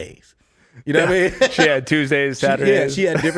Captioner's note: laughs